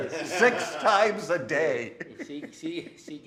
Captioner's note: laughing